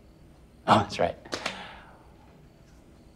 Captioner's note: laughs